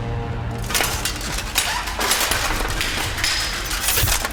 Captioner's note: armor rattling; sword sheathing